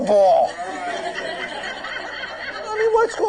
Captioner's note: laughter